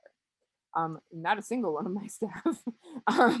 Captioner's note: laughs